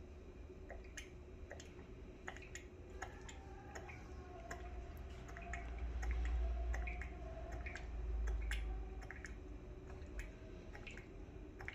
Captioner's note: pouring ink sound